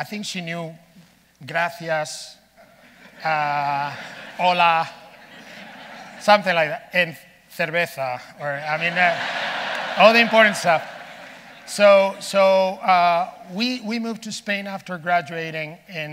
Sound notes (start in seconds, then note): 8.5 audience laughing